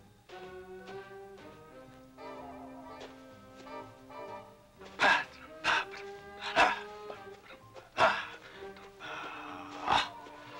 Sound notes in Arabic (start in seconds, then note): 5.2 خرخرة